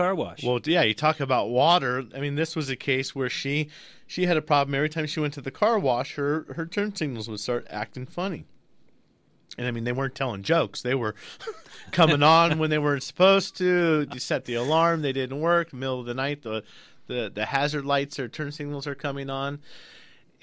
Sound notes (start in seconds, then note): 11.3 both laugh